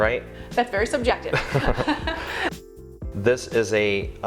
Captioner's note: both Laugh; laughs